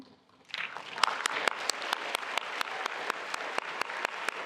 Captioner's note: attendees applauding